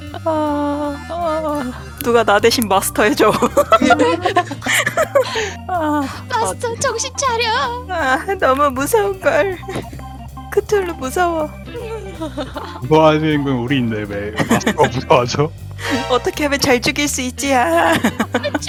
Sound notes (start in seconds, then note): 0.0 laugh; 3.5 laugh; 6.3 confused; 10.0 laugh; 15.8 laugh; 17.5 laugh